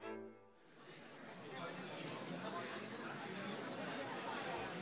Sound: audience faintly chatting

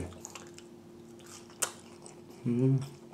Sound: smacking

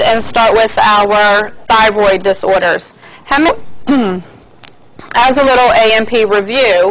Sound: cough

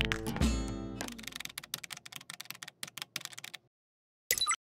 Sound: keys clicking

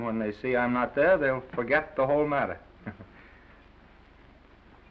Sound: Norman chuckles

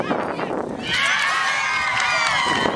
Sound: crowd cheers

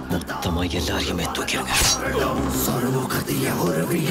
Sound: theme music playing; sword clinging; theme music playing

